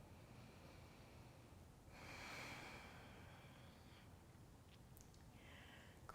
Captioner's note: breathing